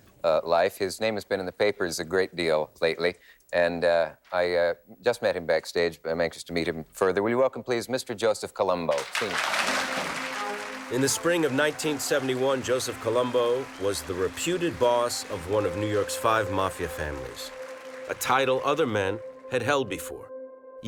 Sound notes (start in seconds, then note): 9.2 audience applauding